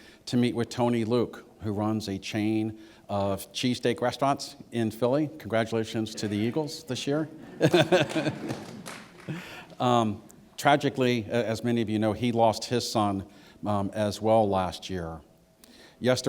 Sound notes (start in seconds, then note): 7.4 laughter